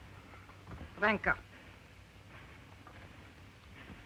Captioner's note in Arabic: البارونة تتحدث لغة أجنبية